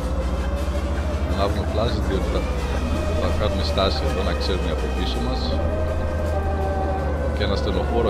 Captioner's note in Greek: Σειρήνα Ασθενοφόρου!